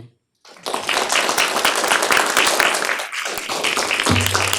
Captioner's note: applause